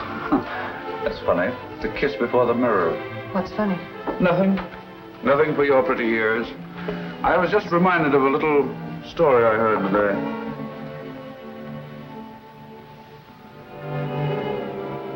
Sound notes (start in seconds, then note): none